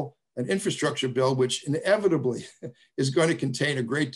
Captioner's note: laughs